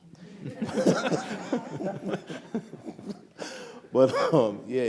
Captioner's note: audience laughs